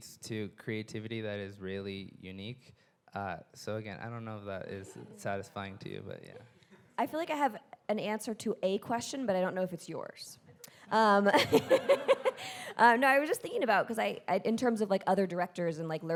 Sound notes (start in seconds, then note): 11.0 laughing; 11.4 audience laughing